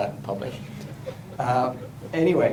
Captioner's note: laughter